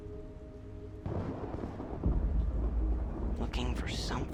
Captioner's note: thunder rumbling